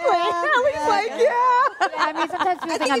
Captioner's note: laughter